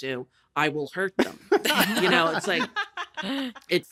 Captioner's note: laughter